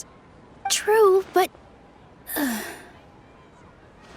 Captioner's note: sigh